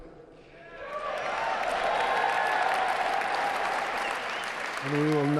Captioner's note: audience cheering